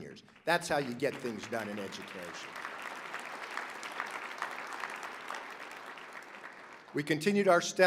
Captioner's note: applause